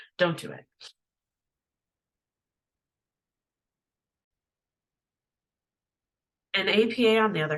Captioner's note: pause